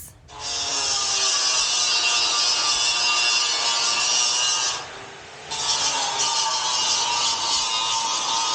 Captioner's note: super loud buzz saw